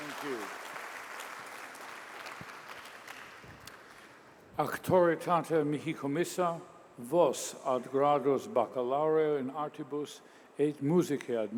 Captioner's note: cheers and applause